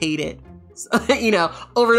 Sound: laughs

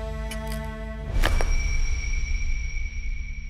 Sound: glass breaks

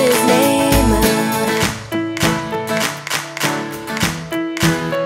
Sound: Wally claps

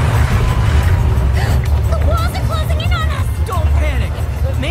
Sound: crashing

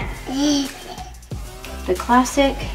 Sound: giggles

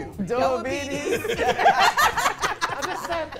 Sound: laughing

